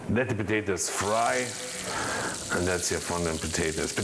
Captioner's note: water sizzles